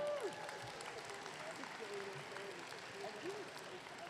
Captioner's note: audience clapping